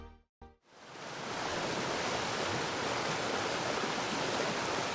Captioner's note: water rushing